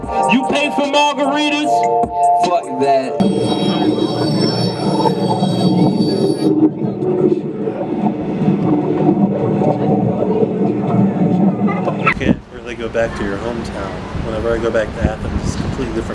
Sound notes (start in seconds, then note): 3.8 wind crackling